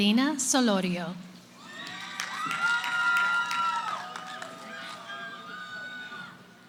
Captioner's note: cheering